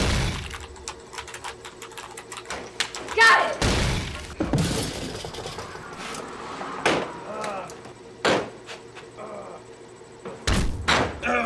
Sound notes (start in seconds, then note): 3.6 explosive crash; 7.2 Joe groans; 9.6 thudding footsteps